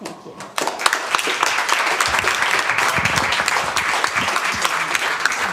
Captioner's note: applause